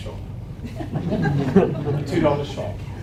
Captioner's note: audience laughing